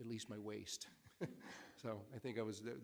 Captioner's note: laughs